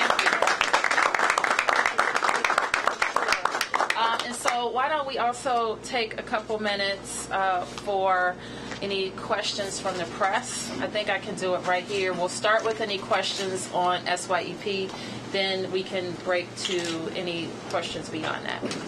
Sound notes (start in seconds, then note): 2.6 applause